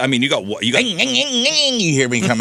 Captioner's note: mimicking noises